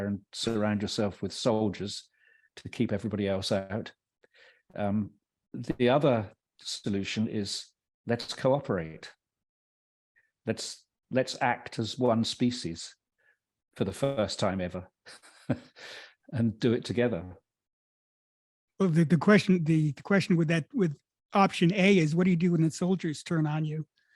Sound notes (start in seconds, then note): 15.1 laughs